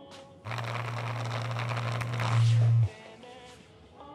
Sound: phone vibrating

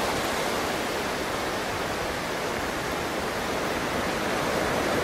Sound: waves crashing

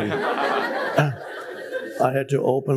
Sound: public laughing

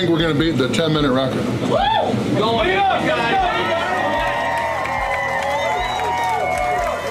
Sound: crowd; crowd cheering

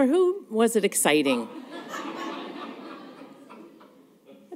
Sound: laughter

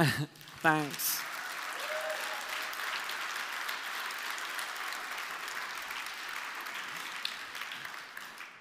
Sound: applause

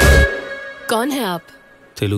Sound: in Hindi

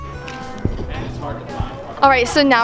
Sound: crowd talking

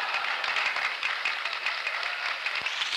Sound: laughter, applause

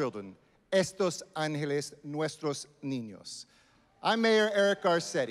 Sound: speaking Spanish

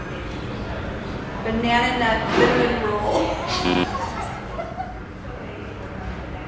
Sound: laughing

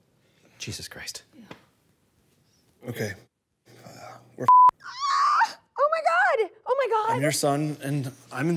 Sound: cries

